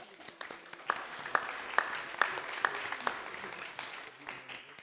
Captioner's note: audience applauding